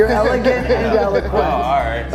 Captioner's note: laughing